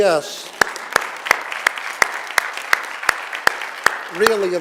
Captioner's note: audience applauding